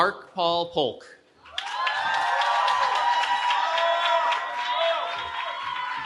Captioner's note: cheering